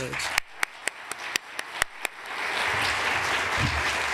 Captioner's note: applause